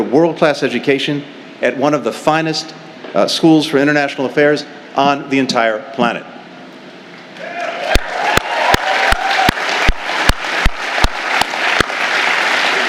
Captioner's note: cheers